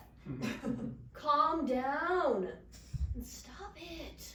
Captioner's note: audience chuckles